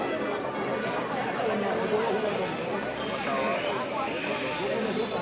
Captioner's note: indistinct chatter